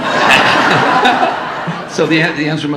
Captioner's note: audience laughing